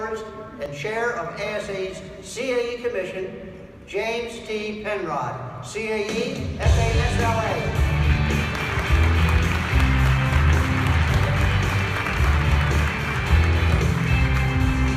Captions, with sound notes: and chair of ASAE's CAE commission -- James T. Penrod, CAE, FASLA. [ Applause ]